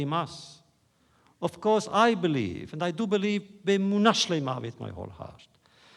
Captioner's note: foreign language